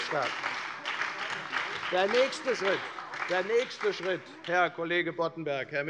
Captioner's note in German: Lebhafter Beifall bei der FDP und der SPD